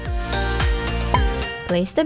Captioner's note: blop